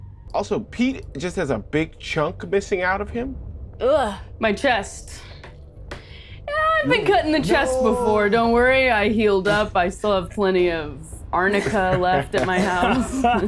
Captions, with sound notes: - Also, Pete just has a big chunk missing out of him. - (groans) My chest. Yeah, I've been cut in the chest before. - No! Don't worry. I healed up. I still have plenty of Arnica left at my house.